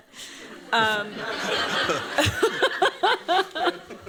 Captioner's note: laughter